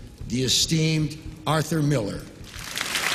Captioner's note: much applause and a standing ovation